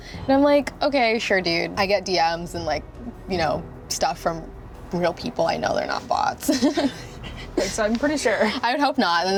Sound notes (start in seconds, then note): 6.4 laughs